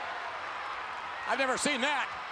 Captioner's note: spectators cheering